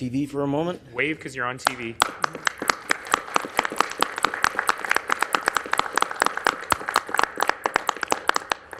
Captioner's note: applause